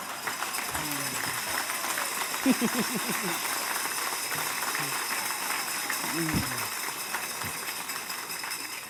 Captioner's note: applause